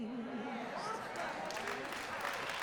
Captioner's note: cheers and applause